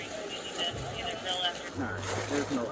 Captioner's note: radio chatter